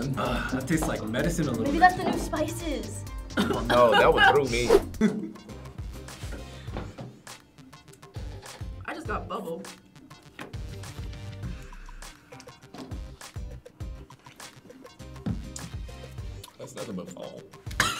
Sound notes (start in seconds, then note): 3.2 coughing